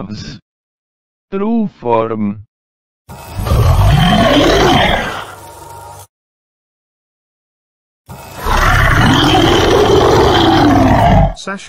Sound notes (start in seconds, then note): 3.3 roar; 8.3 loud Roar / Energy Discharge